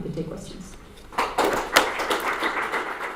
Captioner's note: audience applause